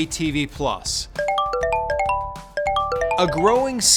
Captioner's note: phone chiming